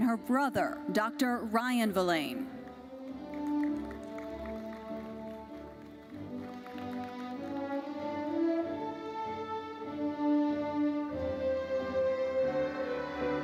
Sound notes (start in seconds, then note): 2.6 audience applauding; 8.8 uplifting classical music continues